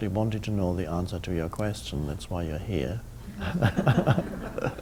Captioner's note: audience laughing; laughs